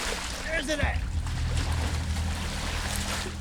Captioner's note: tense music; water splashing